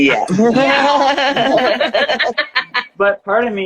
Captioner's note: laughing